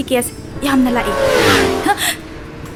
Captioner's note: sound of vehicles passing by quickly